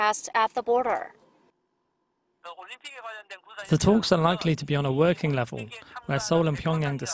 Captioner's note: Korean